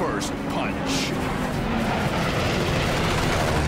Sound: engines roaring

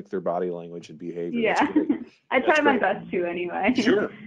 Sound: chuckling

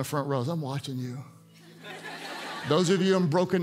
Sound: congregants laugh

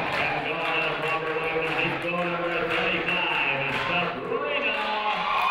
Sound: muffled voice speaking over speaker

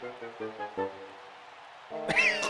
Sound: coughing

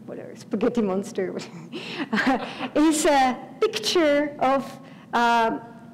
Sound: laugh

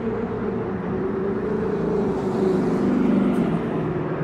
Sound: traffic roaring

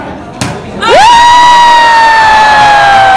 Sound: cheering

